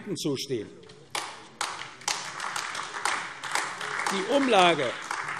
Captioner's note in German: Beifall AfD